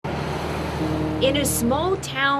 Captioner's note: car drives